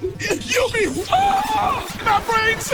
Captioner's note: screaming